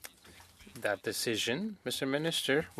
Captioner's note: speaking French